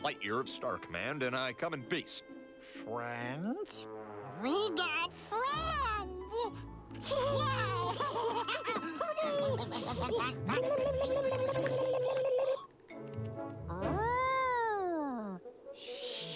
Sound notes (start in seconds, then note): 7.6 chattering excitedly